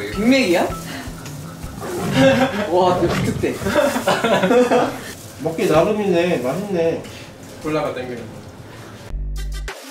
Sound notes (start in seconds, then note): 1.6 roar